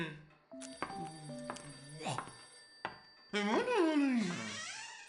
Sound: phone ringing

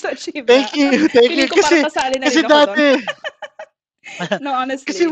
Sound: laughs

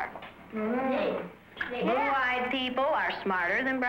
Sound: children mumble

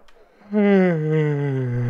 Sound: yawns

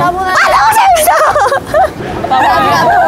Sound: giggles

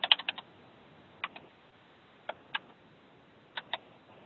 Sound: keyboard cranking

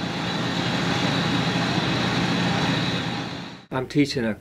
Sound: loud drilling noise

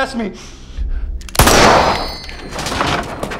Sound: gunshot

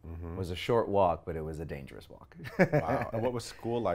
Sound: laughs

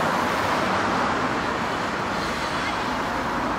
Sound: passing engines whirr

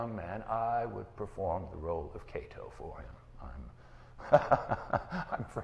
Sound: laughing

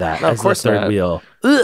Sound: laughs

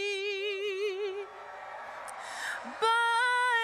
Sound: audience applauding and cheering

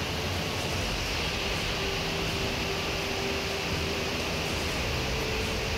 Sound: waterfall sounds

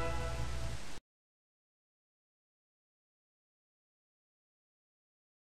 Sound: silence

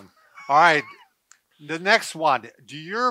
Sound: laughs

